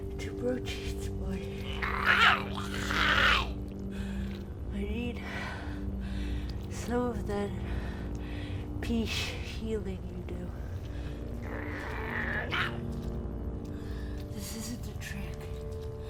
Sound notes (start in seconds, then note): 1.6 Giree snarls; 11.2 Giree growls